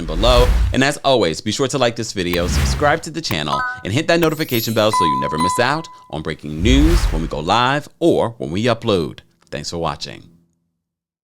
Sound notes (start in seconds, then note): 0.0 graphics whoosh; 2.3 graphics whoosh; 3.2 graphics click; 3.3 graphics chime; 3.5 graphics tinkle; 6.1 graphics dinging